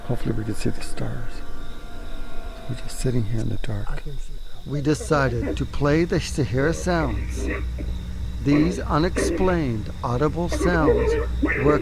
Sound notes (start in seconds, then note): 1.5 ominous music; 7.4 animal growling